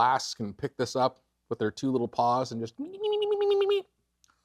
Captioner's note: imitates kid eating